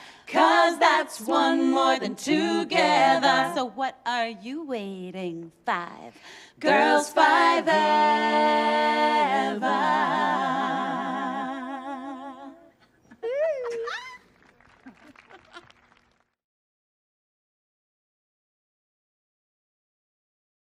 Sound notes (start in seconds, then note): 13.0 girls laughing; 14.0 audience clapping